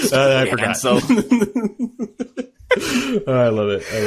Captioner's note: laughing